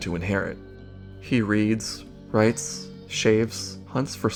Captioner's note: in French💔